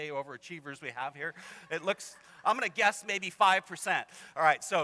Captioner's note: laughter